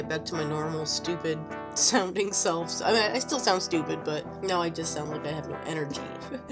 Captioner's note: laughs; laughing